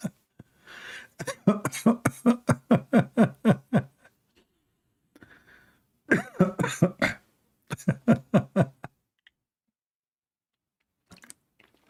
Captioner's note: Ketawa